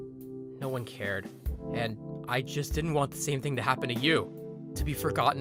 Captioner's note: narrating